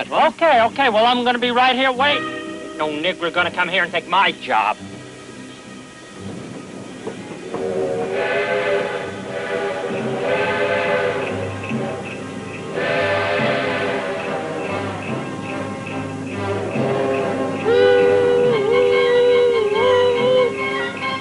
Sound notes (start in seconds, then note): 5.1 intrepid music; 7.5 train whistle blowing; 17.1 imitating train whistle